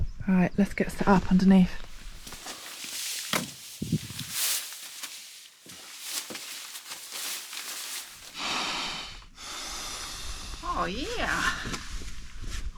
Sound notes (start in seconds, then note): 4.3 rustle rustle; 8.4 puff